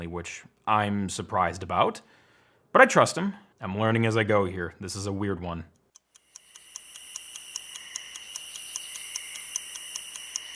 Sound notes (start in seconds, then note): 5.8 clock ticking rapidly